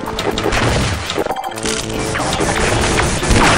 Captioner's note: gunshots